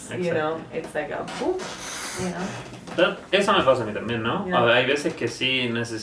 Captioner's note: murmuring softly